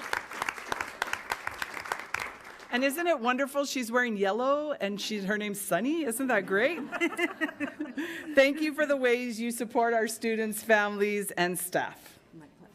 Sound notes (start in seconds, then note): 6.9 attendants laughing